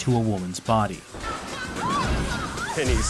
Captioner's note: woman screams